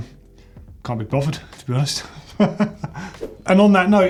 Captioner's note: laughs